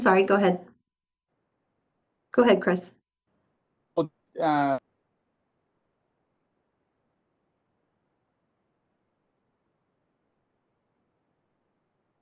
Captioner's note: extended pause